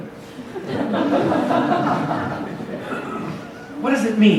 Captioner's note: audience laughs